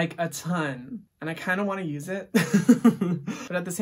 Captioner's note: laughs